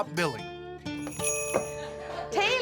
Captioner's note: door bell jingles